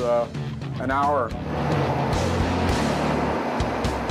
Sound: machine whirring

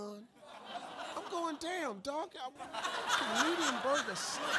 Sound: drowned out by audience laughing

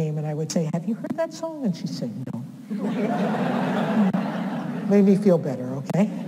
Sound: audience laughs

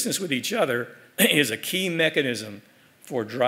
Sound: cough

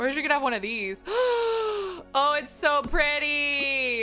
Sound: gasps

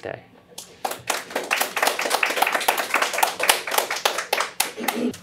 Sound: audience clapping

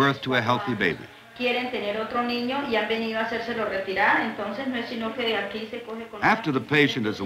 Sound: speaking Spanish

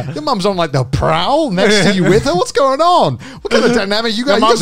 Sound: all laughing

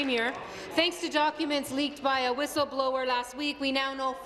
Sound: applause

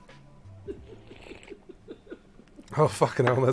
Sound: laughing

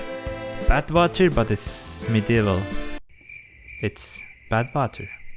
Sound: cricket sound

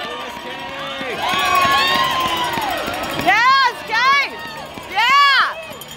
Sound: bell ringing and crowd cheering

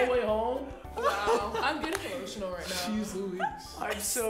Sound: chuckling

